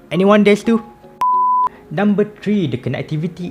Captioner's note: beep